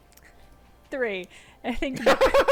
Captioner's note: laughing